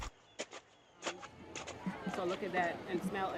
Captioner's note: shovel clanging